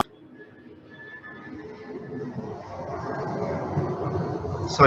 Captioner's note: plane engine roaring